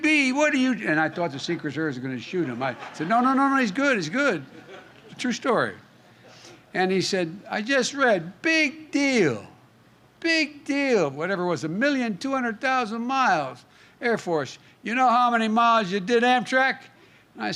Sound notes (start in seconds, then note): 2.3 laughter